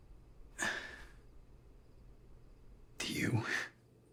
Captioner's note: Kent sighing